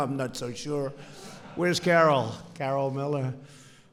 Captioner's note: laughter